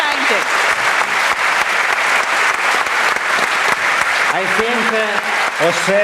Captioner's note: applause